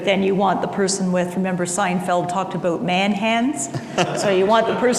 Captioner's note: laughter